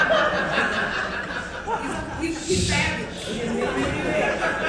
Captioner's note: audience laughing